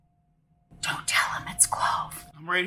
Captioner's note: whispers